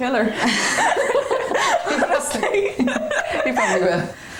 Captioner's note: both laughing